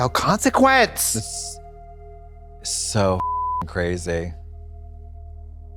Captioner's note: beep